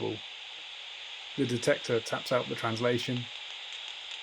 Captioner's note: faint clicking